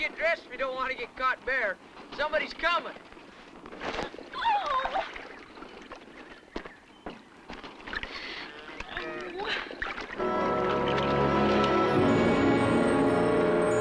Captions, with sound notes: if you don't wanna get caught bare. Somebody's coming. - Oh! (groans) (dramatic music)